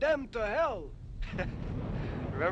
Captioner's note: chuckles